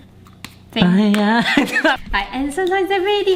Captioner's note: laughs loudly